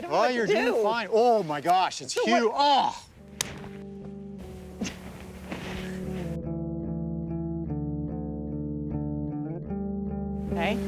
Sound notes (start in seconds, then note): 3.9 clapping; 8.0 tranquil music